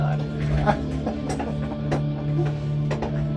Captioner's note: laughs